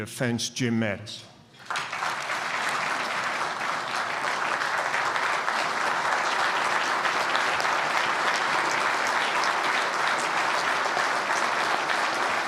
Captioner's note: applause